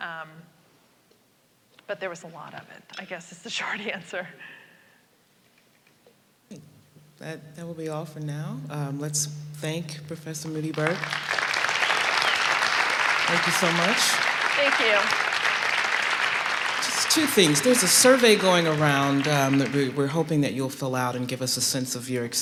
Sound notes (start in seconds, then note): 10.4 applause